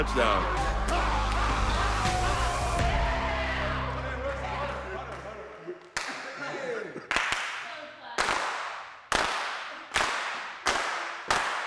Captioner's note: applause